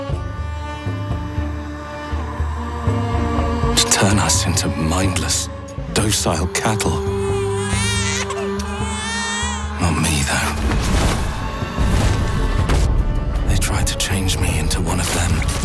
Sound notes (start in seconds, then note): 6.0 baby crying